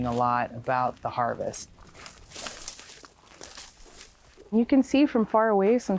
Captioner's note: feet shuffling